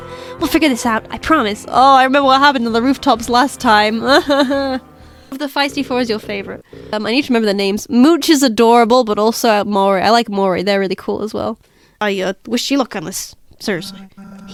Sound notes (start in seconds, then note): 3.7 nervously laughs